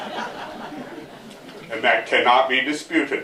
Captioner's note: laughter